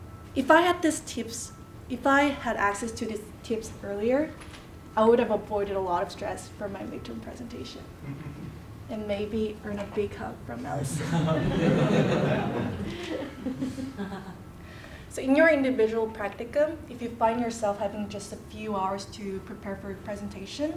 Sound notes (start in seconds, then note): 10.7 laugh